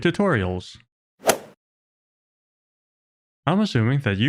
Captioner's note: golf ball hit sound effect